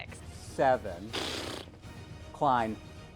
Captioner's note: fart